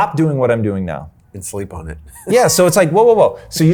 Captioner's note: chuckles